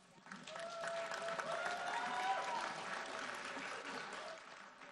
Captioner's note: audience applauding